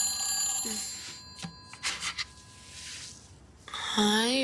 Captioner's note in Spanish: Suena el celular